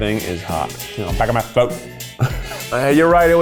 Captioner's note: laughs